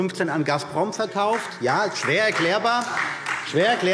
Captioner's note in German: Beifall Freie Demokraten